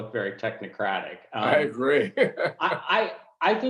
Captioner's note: laughing